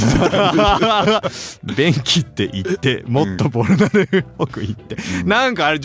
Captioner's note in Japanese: 笑い